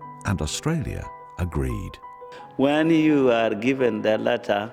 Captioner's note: voiceover